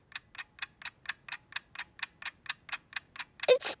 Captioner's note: ticking